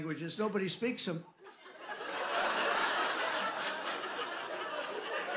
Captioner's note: laughter